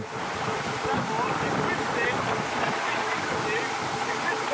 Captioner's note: rescuers chatting